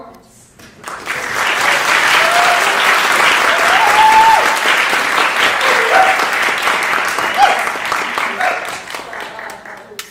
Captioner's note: applause